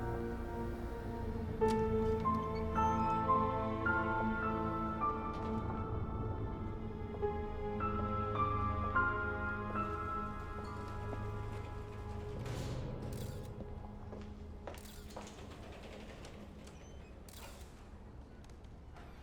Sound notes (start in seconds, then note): 2.1 door latch clicks; 5.6 suspenseful music; 13.2 camera shutter clicks